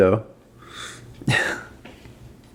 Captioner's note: wheezes